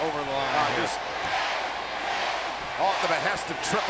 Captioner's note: audience chanting